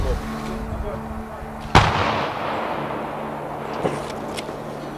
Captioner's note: explosion